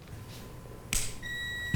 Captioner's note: click